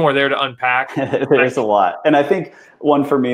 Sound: laughs

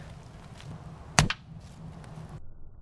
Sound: mediocre Boom

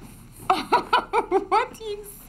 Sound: laughs

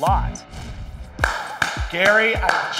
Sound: clapping

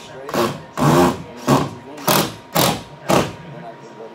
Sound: drill noises

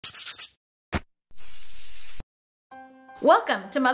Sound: record scratch

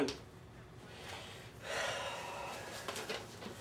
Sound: sighs

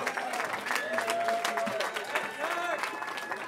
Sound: cheering

